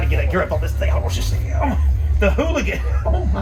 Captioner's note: groaning